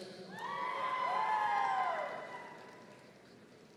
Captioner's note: audience cheering